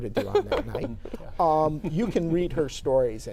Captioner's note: laughing